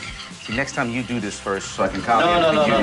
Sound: guests moan

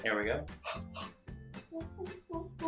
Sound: hah hah

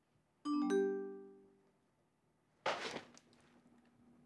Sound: message chimes

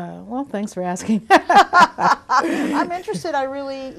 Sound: both laughing

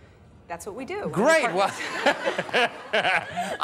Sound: laughs

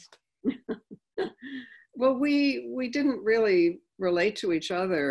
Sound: laughing

